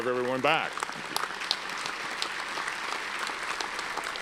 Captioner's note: audience applauds